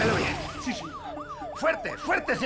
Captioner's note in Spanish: Sirenas